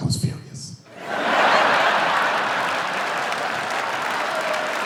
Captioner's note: laughing